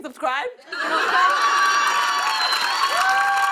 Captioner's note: cheers and applause